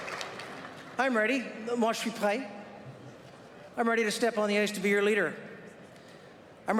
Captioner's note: applause